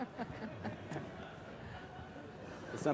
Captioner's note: laughter